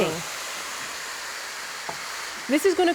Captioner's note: sizzling